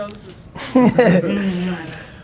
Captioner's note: laughs